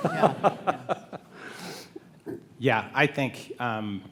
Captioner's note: panel laughs